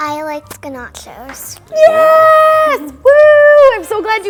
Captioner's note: cheering